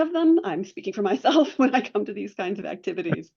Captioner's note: laughs